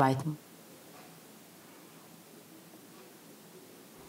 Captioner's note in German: Leise Arbeitsgeräusche im Hintergrund